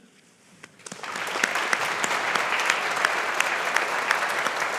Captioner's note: audience applauding